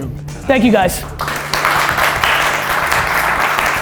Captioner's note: applause